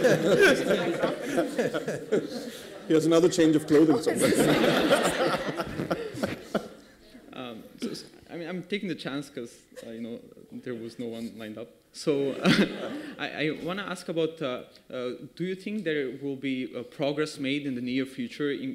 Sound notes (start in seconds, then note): 3.8 laughter